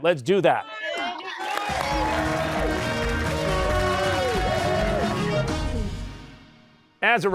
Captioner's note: cheers and applause